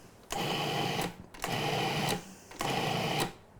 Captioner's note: mixer whirring